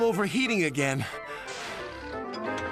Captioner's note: panting